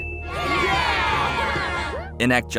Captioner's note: cheering